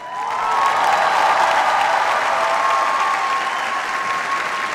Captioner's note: cheers, applause